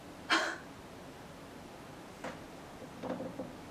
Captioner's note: Alice gasps